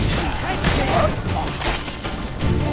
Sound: flames whoosh; gasp, gurgles

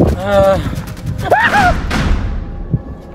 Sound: scream

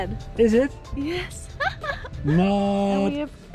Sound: laughs

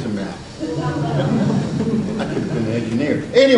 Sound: audience laughs

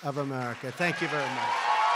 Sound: applause

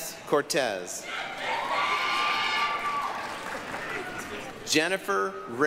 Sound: applause, cheering

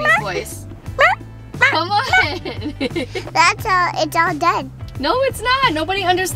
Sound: barking

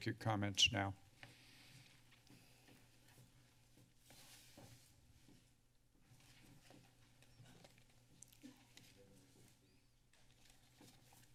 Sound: silence

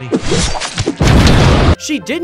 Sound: explosion booming

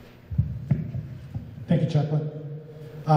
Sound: microphone thumping

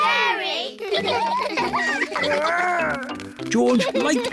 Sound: all laugh

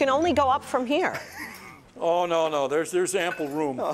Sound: laughter

